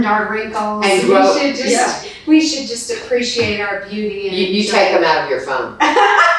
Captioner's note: laughs